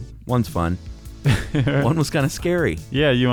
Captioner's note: laughs